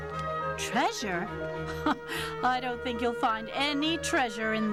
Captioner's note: laughing